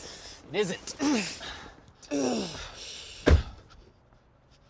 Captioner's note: Mark grunting